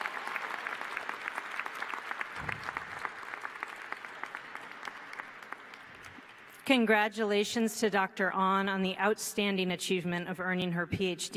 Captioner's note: applause